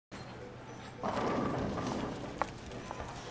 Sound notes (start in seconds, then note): 1.0 pins scatter